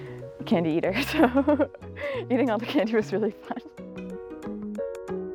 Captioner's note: laughing